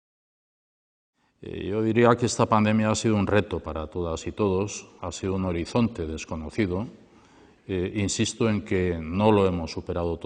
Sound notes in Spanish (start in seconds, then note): 0.0 voz en off del Lehendakari